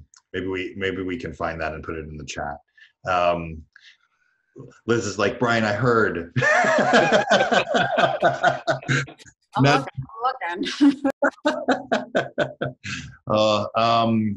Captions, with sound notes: Maybe we can find that and put it in the chat. Liz is like, "Brian, I heard." (laughs) - I'm looking (laughs)